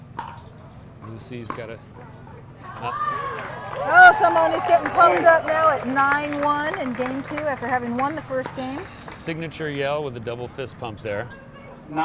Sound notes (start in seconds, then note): 3.1 audience applauding